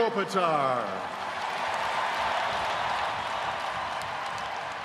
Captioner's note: fans cheering